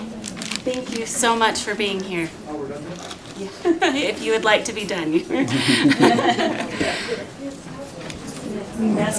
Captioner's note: laughter